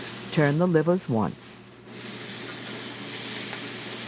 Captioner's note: voiceover